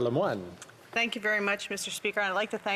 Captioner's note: speaking French